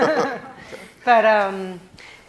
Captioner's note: laughing